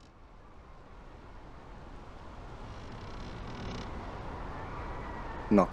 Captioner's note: ocean waves; wood creaking